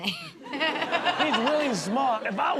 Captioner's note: audience laughs